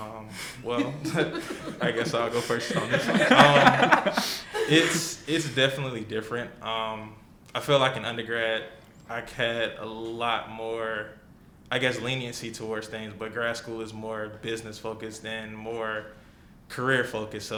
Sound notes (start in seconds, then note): 3.0 laughs